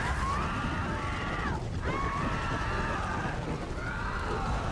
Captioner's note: creature screaming